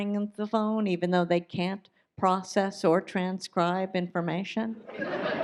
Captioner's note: audience laughs